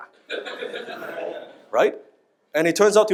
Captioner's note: audience laughs